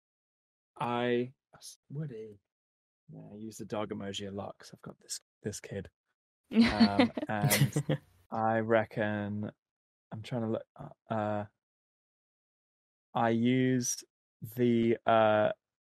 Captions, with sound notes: I... Woody! I use the dog emoji, a lot, cause I've got this, This kid. (laughing) I reckon I'm trying to, I used. The. Uh.